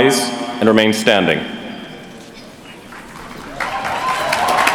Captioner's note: applause